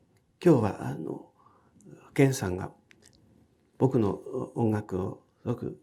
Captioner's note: speaking in foreign language